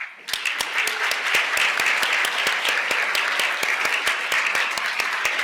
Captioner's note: applause